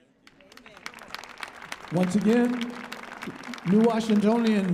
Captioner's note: audience applauding